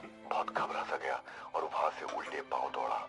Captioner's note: radio